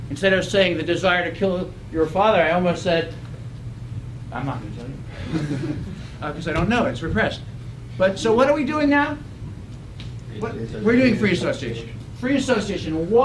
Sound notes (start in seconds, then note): 5.2 laugh